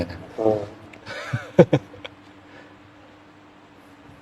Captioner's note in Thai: เสียงหัวเราะ